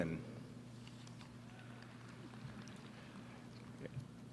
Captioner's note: applause